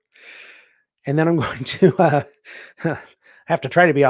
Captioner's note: laughs